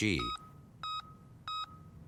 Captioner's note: beeping